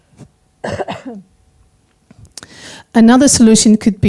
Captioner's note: coughing